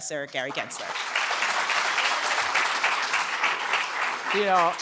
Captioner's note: applause